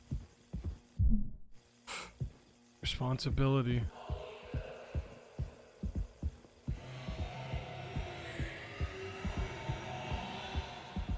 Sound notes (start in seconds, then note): 3.9 gasps; 7.0 Polle speaks distortedly